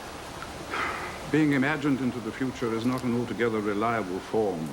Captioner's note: sighs